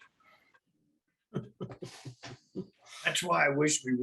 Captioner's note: laughing